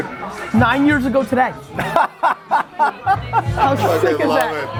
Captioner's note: group laughter